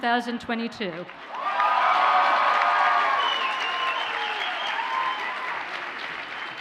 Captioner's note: audience cheers and applauds